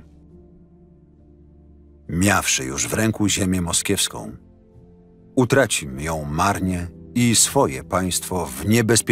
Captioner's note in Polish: Lektor